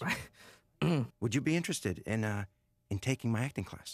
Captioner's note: clears throat